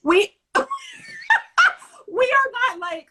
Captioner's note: laughter